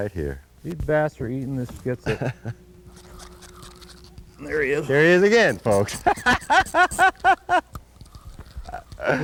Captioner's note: laughter